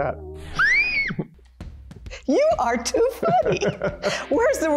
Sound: laughing

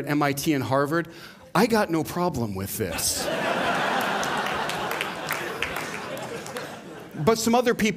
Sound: laughter

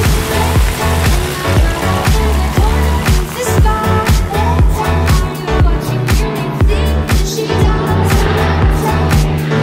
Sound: music; Piper Cherokee take-off

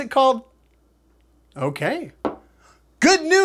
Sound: rock hits table

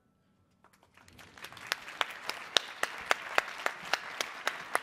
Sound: crowd applauding

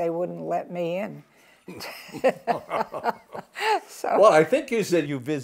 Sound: both laugh

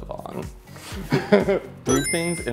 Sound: laughs

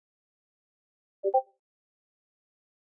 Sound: discord ping

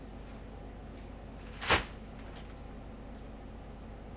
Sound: sack thuds

